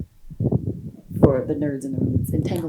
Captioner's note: wind blowing